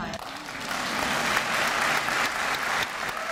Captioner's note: applause